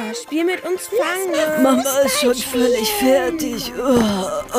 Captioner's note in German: Stöhnen